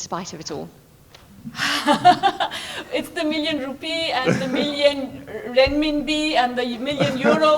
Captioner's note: laughs